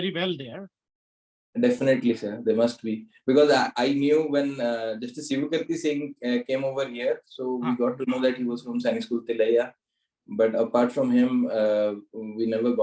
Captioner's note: foreign